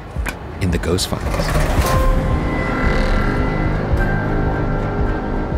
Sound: drawer slams; spooky music

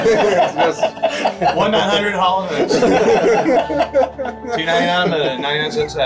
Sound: everybody laughs; background chattering

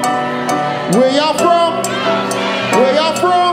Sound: audience shouting

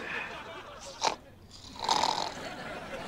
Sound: snoring

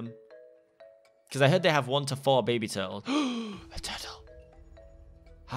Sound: gasps; whispers

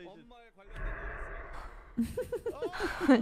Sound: whoosh; laughing; giggling

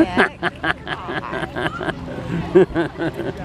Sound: laughing

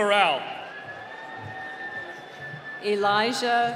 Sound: cheering

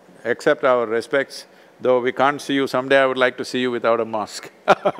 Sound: laughs

